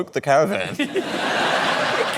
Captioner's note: laughter